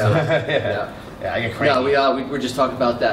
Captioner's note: laughter